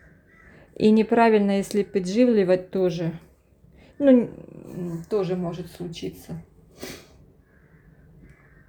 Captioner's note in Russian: фыркает